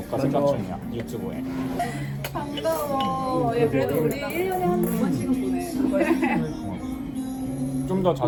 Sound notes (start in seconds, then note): 6.2 clinking glasses away